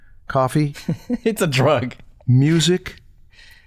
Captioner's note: chuckles